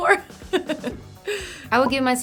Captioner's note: laughing